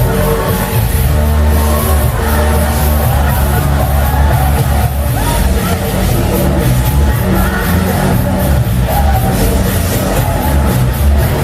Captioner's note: clap